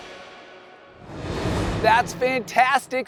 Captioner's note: air whooshing